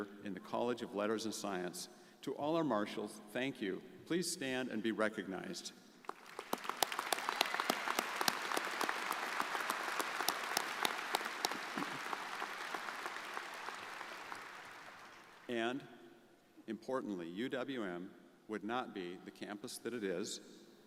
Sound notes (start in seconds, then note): 6.3 crowd applauding